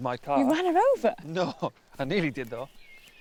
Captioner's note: laughing